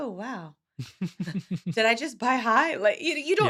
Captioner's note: laughing